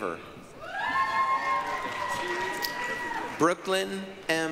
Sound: applause, cheering

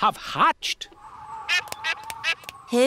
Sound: all quacking

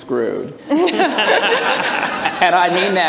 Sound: everyone laughs

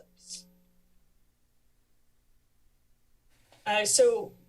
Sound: pause

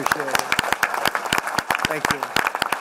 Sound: applause

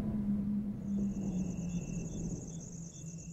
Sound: crickets Chirping

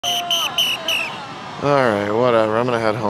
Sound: whistle blows

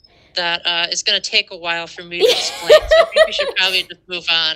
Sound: laughter

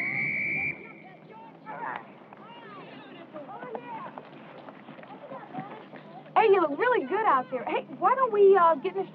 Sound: whistle blows

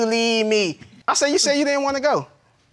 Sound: imitating miss harris

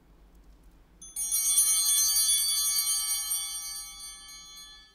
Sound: altar bell ringing

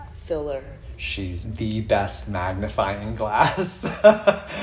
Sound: laughs

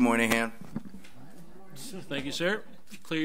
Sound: overlapping chattering

